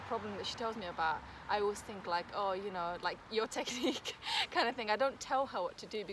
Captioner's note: risos